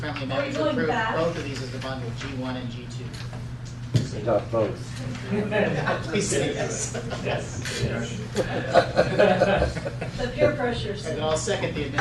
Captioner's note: laughter